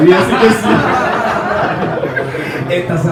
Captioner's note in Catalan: rialles